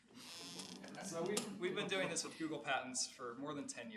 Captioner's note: laughing